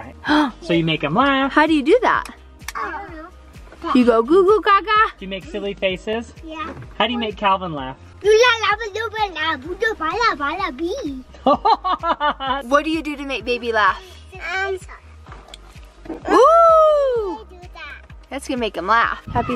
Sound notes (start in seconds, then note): 8.2 speaking gibberish; 11.4 laughs